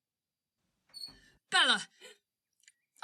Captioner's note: door squeaks open